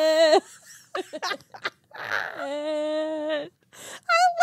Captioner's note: laughing